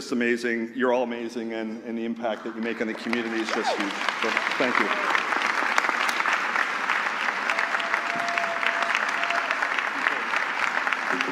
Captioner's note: applause